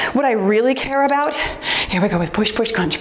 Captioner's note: timer beeps